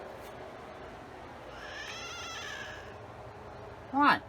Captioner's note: Caprice meows angrily